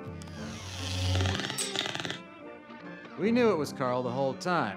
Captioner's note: mechanical whirring